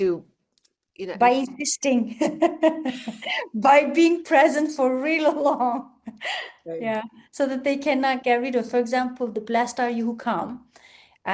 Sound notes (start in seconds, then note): 2.0 laughs